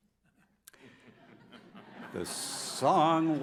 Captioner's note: audience laughs